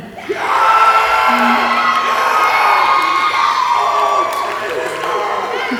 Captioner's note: audience applauding and cheering